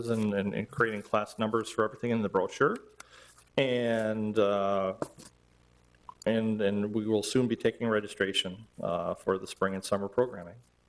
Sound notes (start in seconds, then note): none